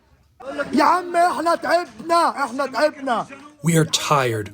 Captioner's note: through translator